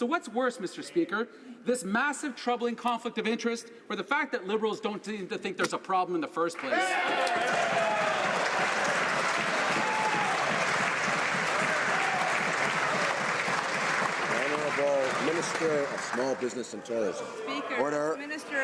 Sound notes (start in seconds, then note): 9.9 some Applause